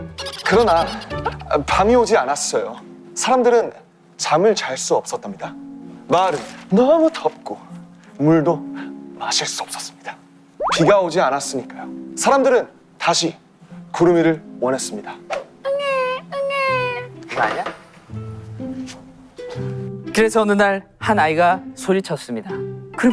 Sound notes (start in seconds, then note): 15.7 crying